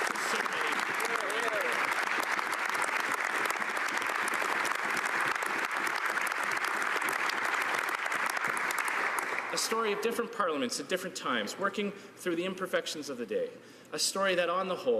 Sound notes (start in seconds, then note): 5.3 applause